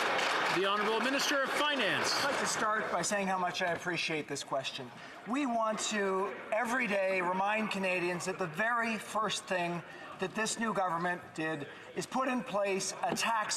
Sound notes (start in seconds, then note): 2.9 some Applause